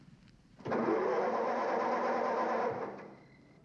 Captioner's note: car engine faltering